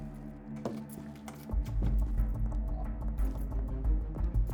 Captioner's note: keys rattling; suspenseful music